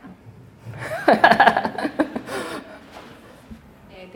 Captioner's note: laughing